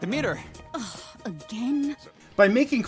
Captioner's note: scoffs